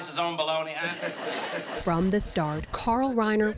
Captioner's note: laughter